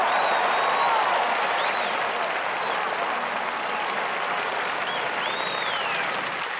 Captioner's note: crowd cheering and applause